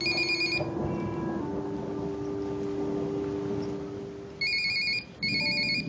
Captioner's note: cellphone ringing